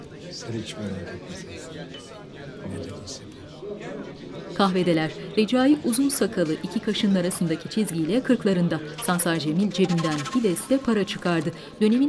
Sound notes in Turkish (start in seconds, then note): 4.5 Kalabalık konuşma sesi